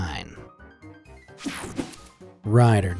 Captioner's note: screen whooshing